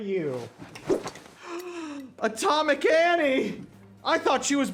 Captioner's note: gasps